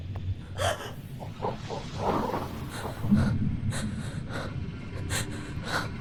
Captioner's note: Wendy gasping; force whirring